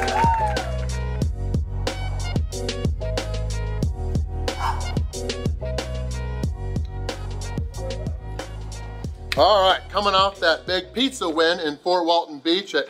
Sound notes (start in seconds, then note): 0.0 crowd cheering; 0.2 upbeat music; 4.6 sighing